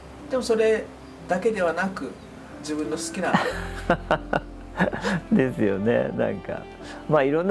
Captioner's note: laughs